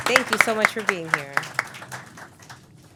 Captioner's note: applause